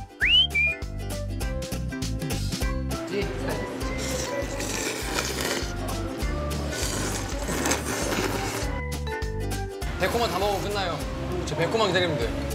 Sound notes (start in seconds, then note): 3.8 tasty slurping